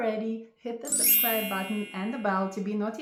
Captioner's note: graphics chiming